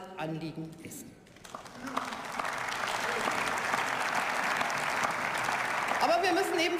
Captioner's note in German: Beifall